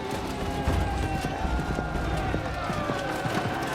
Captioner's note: troops cheering